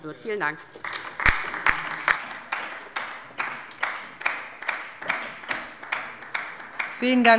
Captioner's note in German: Beifall bei der LINKEN